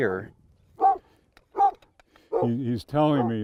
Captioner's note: dog barking